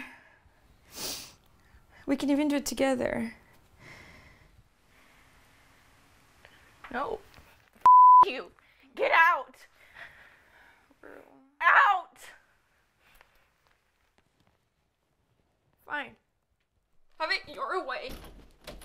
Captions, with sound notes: It won't hurt. We can even do it together. - No, (beep) you. Get out! - Rue. - Out!